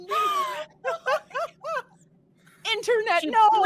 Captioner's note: all laughing